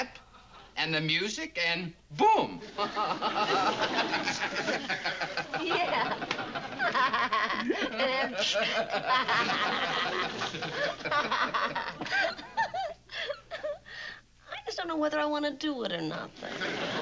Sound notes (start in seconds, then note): 2.6 laughs; 5.3 both laugh